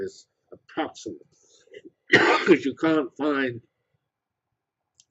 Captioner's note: cough